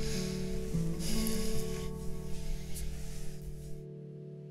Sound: sighing

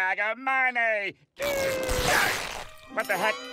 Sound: grunting

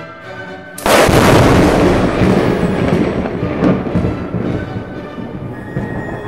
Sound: lightning strike, thunder

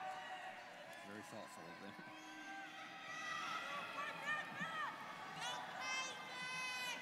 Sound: students cheering

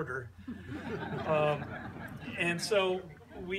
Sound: laughter

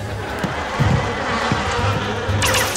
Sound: buzzing

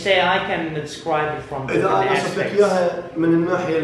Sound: speaks Arabic

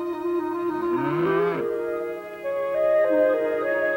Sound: cow moos

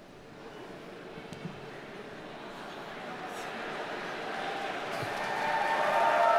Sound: audience chuckles and cheers

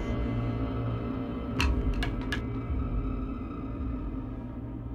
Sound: clattering

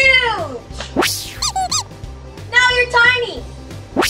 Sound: pig squeaking

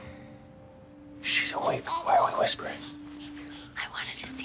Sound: whispers

